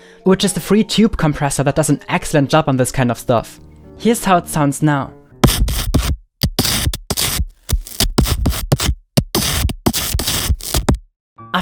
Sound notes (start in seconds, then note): 5.7 digital sounds